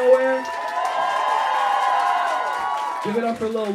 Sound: crowd cheering

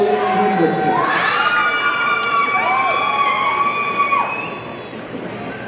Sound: audience cheering

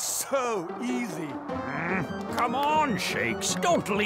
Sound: grumbling

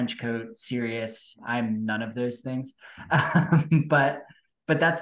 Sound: laughs

